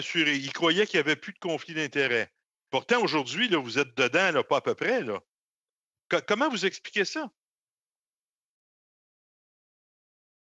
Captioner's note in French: voix de l'interprète